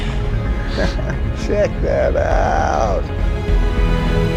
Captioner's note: laughs